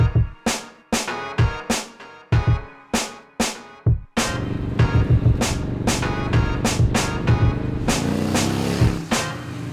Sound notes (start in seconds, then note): 5.1 motorcycle noises